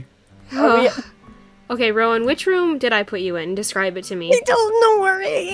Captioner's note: exasperated sign